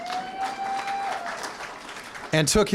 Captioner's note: applause